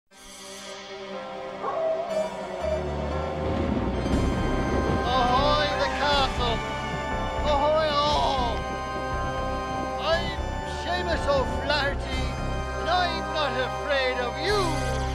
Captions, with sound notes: (eerie music) (wolves howling) - Ahoy, the castle. Ahoy, all. I'm Seamus O'Flaggerty, and I'm not afraid of you, Fin Bar.